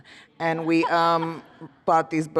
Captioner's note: laughter